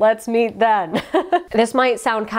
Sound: laughs

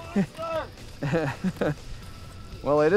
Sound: laughter

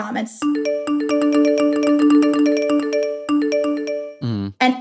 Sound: phone chiming

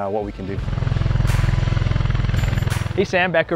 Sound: blades whirring

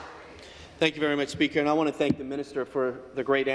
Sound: some Applause

